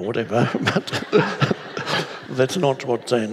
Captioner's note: all laughing